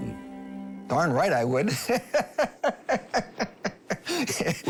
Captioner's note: laughs